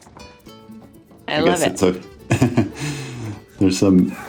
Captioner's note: chuckles